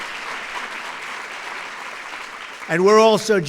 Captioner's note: applause